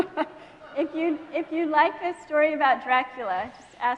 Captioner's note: laughing